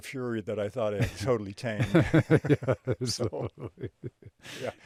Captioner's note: both chuckling